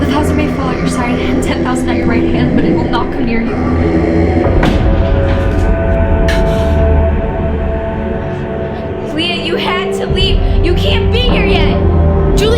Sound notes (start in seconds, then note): 3.7 demon moans; 5.4 dramatic music